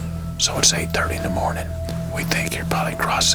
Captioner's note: whispering